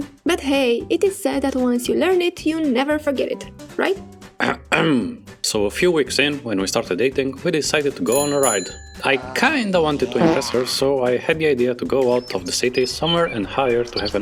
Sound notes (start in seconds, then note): 4.4 clears throat